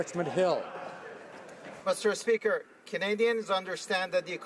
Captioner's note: some Applause